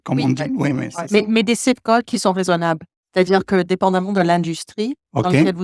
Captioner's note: speaking French